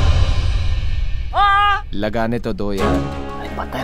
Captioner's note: Ved screams